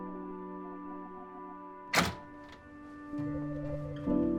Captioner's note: door rattling; expressive piano over uneasy electronic music